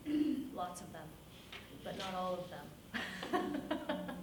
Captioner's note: laughs